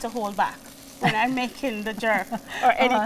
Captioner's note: laughs